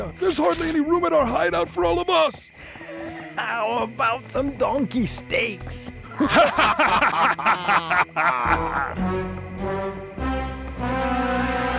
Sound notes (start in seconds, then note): 6.0 גנבים צוחקים; 9.2 מוזיקה מתוחה